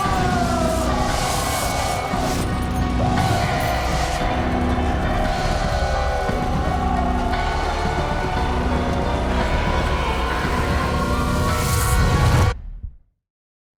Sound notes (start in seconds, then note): 4.6 screaming; 7.3 dramatic music